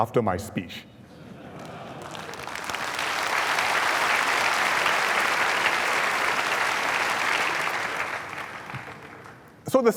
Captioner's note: laughter and applause